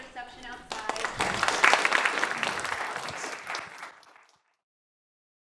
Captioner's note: applause